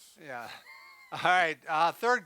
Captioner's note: laughs